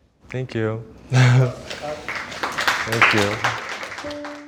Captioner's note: crew claps